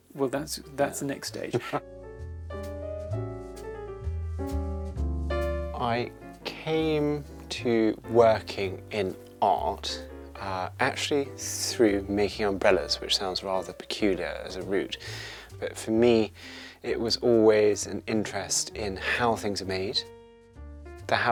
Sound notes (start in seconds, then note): 1.5 chuckles; 2.6 upbeat music